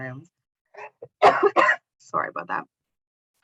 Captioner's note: coughs